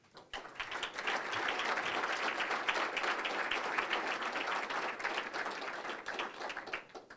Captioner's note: applause